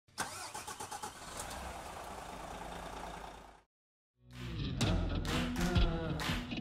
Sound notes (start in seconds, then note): 0.2 engine Revving; 4.3 upbeat Music